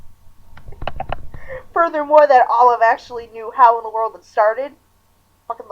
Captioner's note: laughing